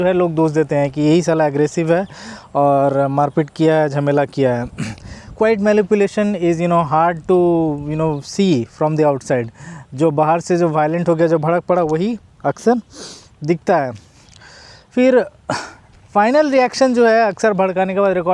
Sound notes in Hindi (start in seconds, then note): 4.6 नाक से की जाने वाली आवाज़; 4.7 गला साफ़ करने की आवाज़; 13.7 नाक से की जाने वाली आवाज़